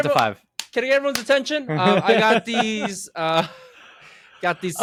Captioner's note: clap clap